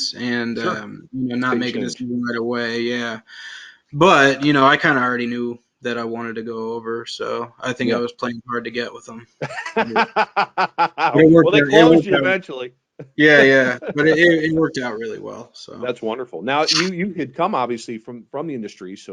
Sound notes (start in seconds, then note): 9.7 laughs